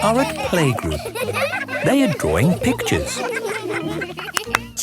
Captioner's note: laughter